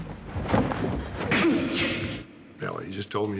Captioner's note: punch landing